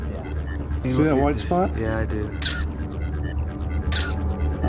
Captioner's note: intense music; camera clicking